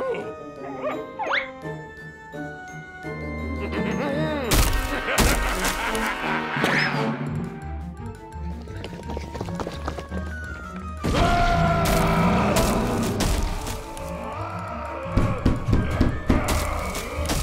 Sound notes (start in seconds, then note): 3.4 laughing; 4.7 maniacal laughter; 7.7 panting; 11.6 growling; 13.3 loud growling